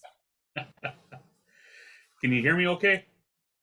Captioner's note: laughes